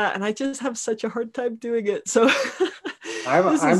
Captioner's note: laughing